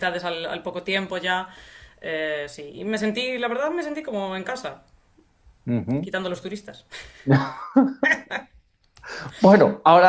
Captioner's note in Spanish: risas